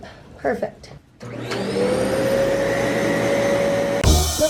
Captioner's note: vacuum